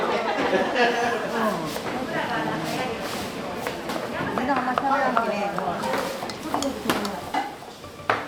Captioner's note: chatter in Japanese